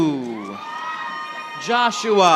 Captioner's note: audience applauding